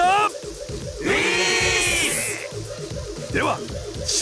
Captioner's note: affirmative cheer